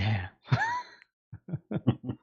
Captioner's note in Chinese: 笑声